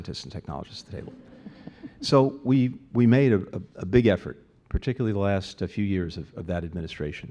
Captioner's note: laughter